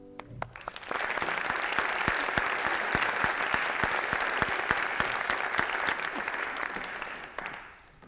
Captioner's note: applause